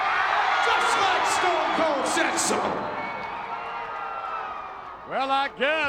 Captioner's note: crowd cheering